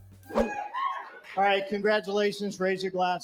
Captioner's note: video: cheers & applause